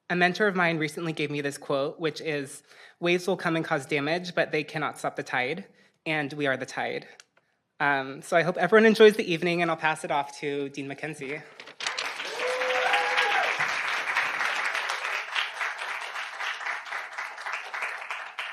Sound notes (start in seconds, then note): 11.8 audience applauding and cheering